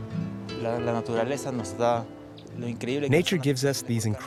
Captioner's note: Spanish spoken audio